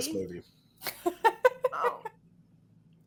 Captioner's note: laughs